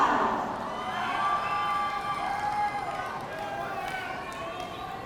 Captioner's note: audience cheering